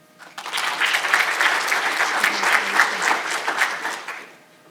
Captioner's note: audience applauding